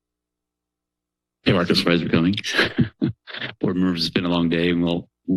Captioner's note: chuckles